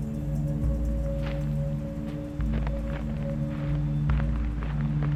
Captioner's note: footsteps crunching